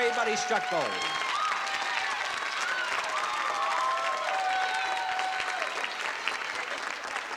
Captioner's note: cheering